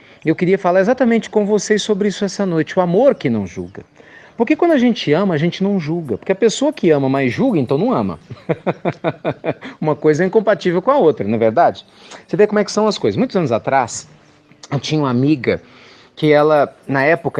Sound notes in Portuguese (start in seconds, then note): 8.2 Risos